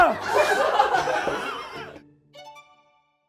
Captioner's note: cracking up